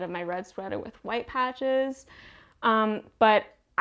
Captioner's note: none